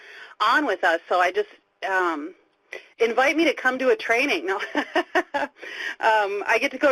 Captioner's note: laughing